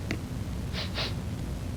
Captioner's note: sniffing